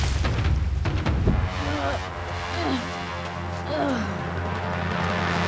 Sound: groaning

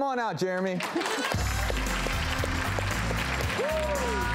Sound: audience applauds

